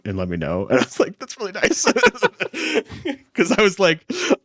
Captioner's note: laughs